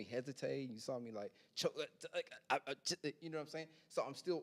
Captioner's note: imitates choking on words